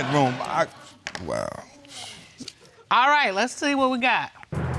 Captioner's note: dismissive sigh